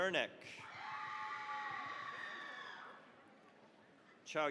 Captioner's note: cheering, applause